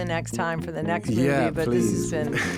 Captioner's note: laughing